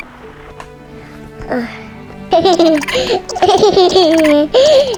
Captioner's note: child and Onzu giggled together